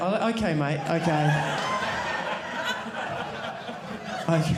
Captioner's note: audience laughing